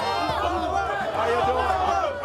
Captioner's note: crowd chatter